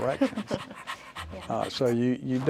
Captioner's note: dog panting